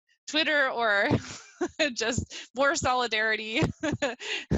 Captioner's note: laughs